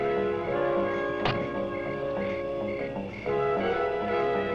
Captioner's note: door shuts